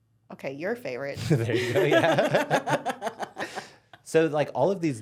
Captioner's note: both laughing